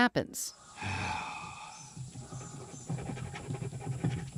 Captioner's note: sighs